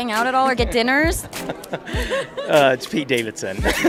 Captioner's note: mild laughing; boisterous laughing